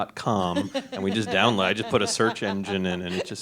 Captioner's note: woman laughs